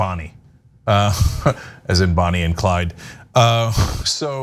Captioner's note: laugh